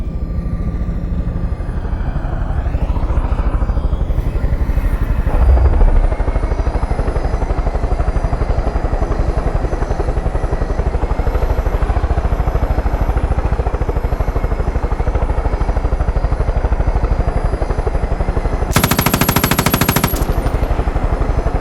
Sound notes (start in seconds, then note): 7.6 helicopter whirring; 21.4 gunfire